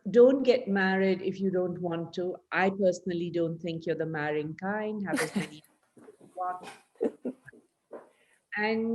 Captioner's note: laughs